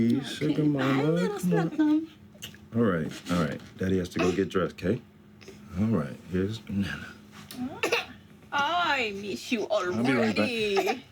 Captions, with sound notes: -Sugar mama. - Hi, little shnukum. All right. All right. Daddy has to go get dressed, okay? All right. Here's nana. [coughs] I miss you already. -I’ll be right back.